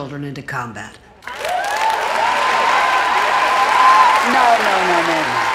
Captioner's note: cheering and applause